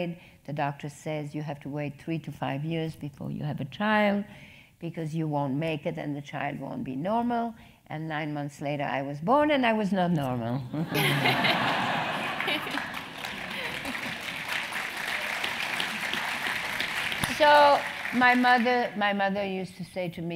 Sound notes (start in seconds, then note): 10.7 laugh; 11.2 applause